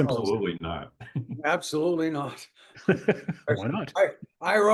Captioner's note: laugh